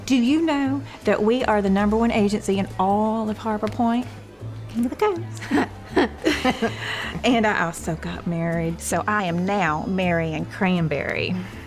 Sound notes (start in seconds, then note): 5.4 chuckling; 11.5 says sarcastically